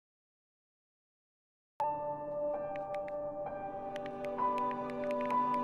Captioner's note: typing on keyboard